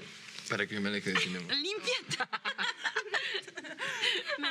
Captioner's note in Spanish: Risas; Hablan al unísono